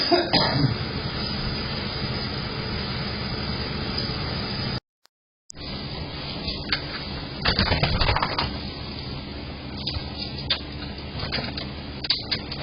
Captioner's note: coughs; opens the door, then closes